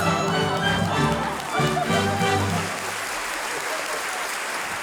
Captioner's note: audience applauding